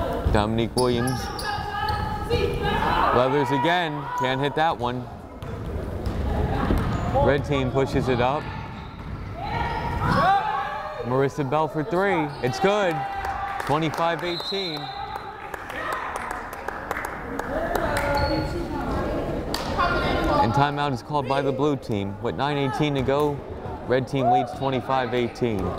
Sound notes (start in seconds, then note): 13.0 crowd applauding; 14.3 whistle blows; 18.6 crowd chattering